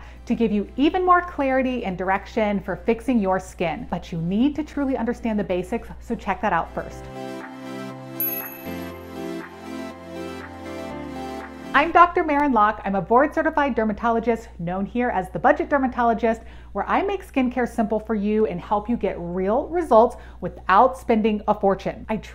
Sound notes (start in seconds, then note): 7.0 cheerful music; 8.2 crisp ding; 11.8 music fades